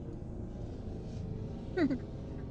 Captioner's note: laughing